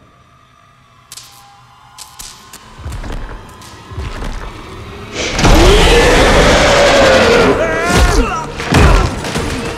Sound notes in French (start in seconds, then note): 5.2 Rugissant